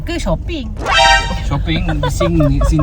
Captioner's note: laugh